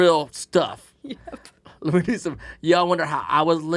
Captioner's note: laughing